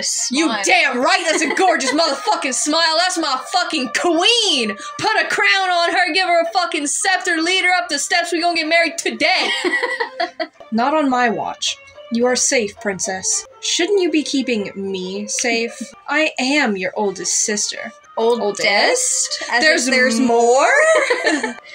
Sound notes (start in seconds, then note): 1.1 laugh; 9.4 laugh; 19.3 laugh